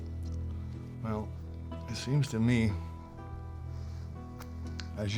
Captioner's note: scottish accent